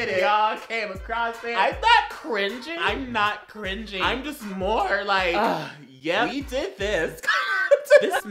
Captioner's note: wheezes in gay